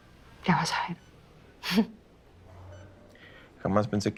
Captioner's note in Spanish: Risa contenida